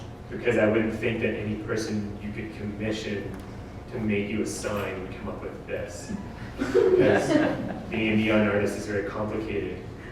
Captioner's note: audience: Laughter